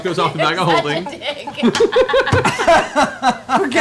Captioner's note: laughter